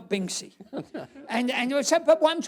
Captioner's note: laughter